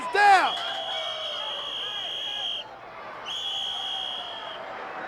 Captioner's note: whistle trills